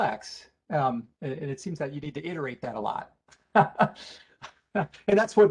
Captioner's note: laughs